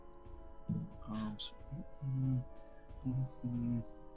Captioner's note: mumbles